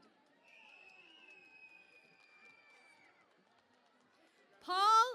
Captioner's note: cheering and Applause